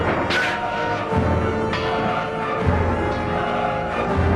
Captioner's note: swords clanging